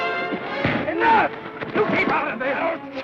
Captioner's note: thud